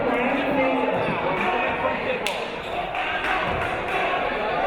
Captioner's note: chattering from audience